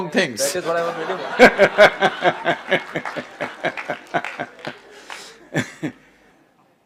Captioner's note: laughs